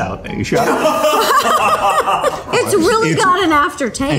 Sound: laughter

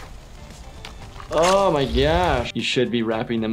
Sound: ripping

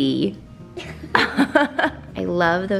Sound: laughing

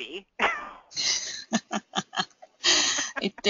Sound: laughing

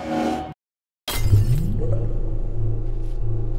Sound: breaking out of stopped time noise

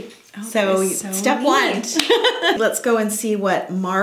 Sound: laughs

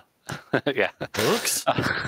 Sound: laughs

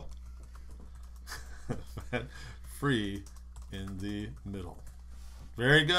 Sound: typing

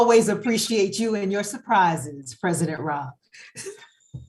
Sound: laughs

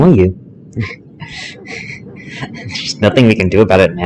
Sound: laughter

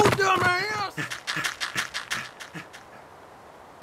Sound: N00bly panting

